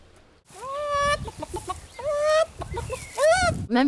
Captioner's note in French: bruit de poule